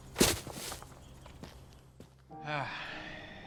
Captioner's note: kicking shrubs